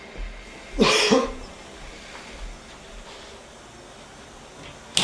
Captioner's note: coughs